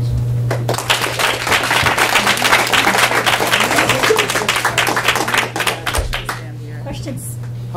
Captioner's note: applause